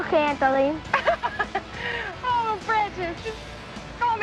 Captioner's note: laughing